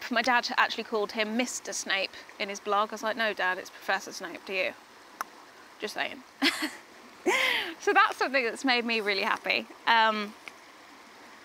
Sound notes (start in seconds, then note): 5.5 tongue pops; 6.4 laughs